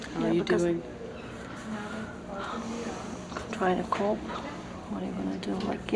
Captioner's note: sighs Softly